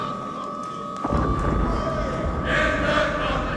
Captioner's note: explosion